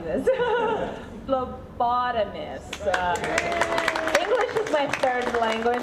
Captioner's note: audience cheering